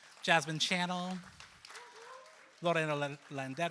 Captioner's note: applause